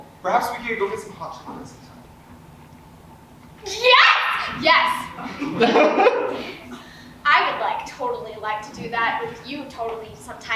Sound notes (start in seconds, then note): 4.9 audience laughs